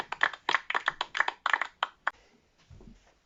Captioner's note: some applause; further applause, a little awkard, a little softer